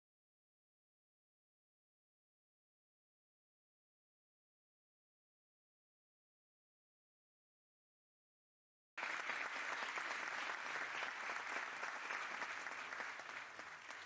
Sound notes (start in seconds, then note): 9.0 audience applauding